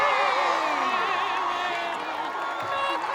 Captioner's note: cheering